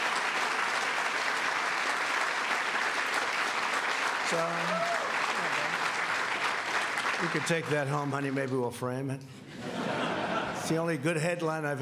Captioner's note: cheers and applause